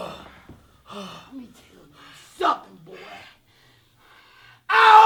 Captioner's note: grunting; heavy breathing